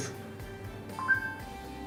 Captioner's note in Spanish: blip